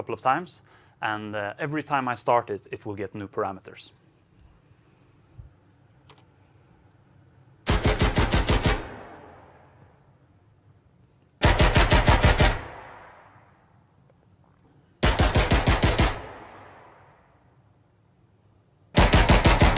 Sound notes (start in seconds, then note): 7.6 gunshots